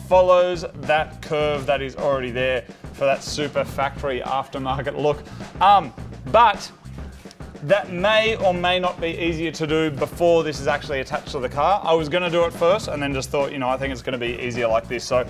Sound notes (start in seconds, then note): none